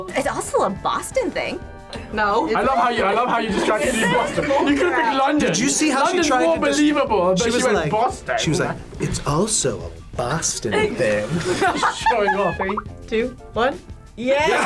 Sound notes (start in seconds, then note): 11.6 laughs